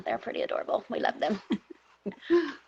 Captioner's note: laughing